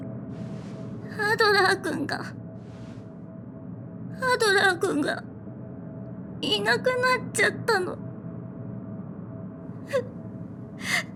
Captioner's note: sob